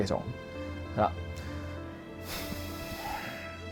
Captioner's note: inhale